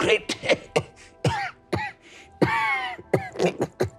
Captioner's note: coughing